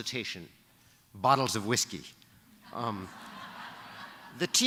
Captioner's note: laughter